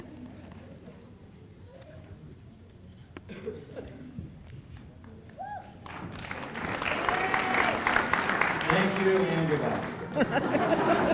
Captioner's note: applause